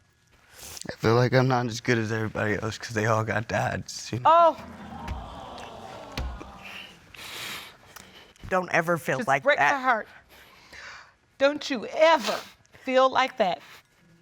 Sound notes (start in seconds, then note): 0.1 sniffles; 4.4 audience exclaims